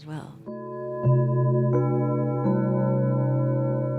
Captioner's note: bells ringing